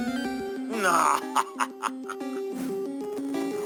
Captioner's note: laughs